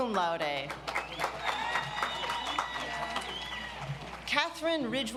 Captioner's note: audience applauds